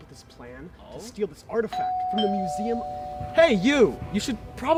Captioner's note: doorbell rings